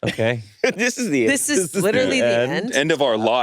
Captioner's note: laughs